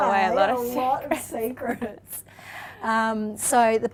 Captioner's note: laughs